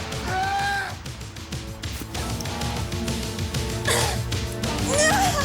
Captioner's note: Jodie groans; Graham screaming; Jodie groans